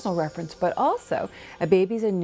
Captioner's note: bells chiming